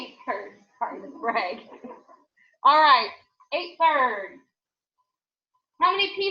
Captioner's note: laughs